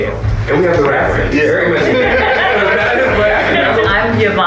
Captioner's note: group laughing